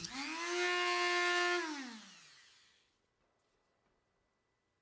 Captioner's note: Dremel stops